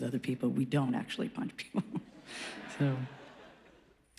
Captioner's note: laughs